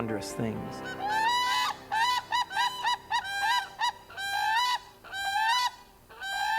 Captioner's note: cranes squawking